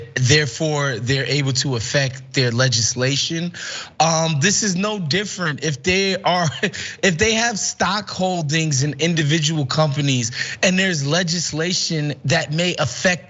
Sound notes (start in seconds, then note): 6.3 laugh